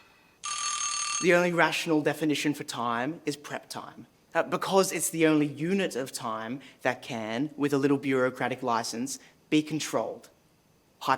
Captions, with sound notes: (alarm ringing) - The only rational definition for time is prep time. Because it's the only unit of time that can, with a little bureaucratic license, be controlled.